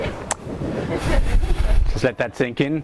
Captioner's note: audience laughs